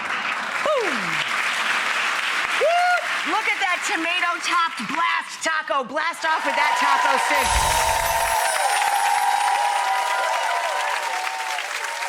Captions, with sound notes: Boom. (audience clapping) Look at that tomato-topped BLAST taco. BLAST off with that taco. (audience cheering) (chimes tinkling)